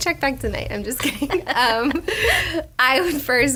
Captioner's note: laughs